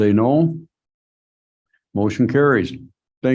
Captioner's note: silence